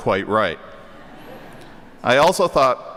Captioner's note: audience laughing